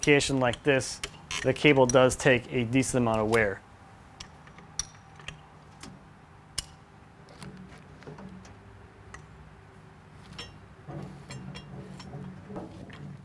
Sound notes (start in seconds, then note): 4.2 lever cranking; 10.2 creaking